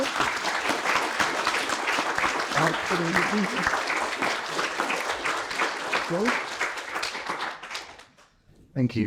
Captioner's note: applause